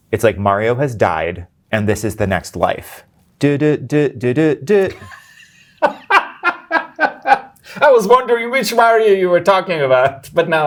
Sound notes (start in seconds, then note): 3.6 imitating introduction song; 4.7 guy laughing